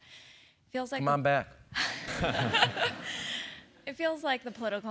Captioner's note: laugh